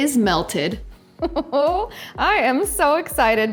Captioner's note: laughing